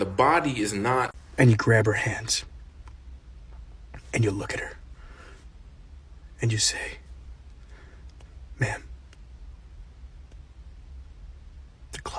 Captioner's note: lamb, whispering